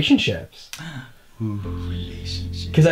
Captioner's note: gasping